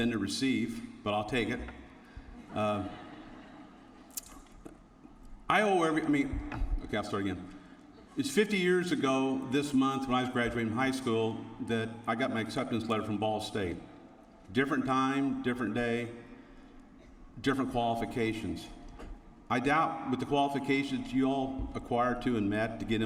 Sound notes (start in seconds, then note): 4.0 laughter